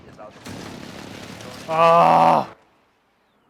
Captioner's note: awww!